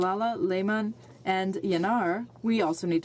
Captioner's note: speaking French